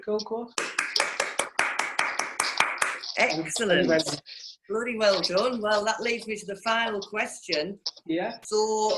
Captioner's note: applause